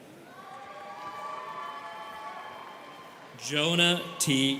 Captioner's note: students cheering